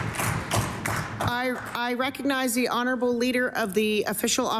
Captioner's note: applause